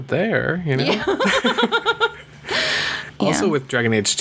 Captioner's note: laughs